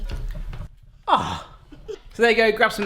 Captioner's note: groans